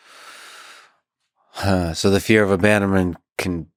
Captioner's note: sighs